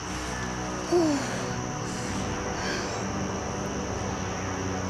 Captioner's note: Jack groans